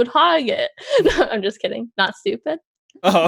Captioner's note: laughs